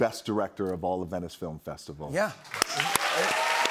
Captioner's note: cheers and applause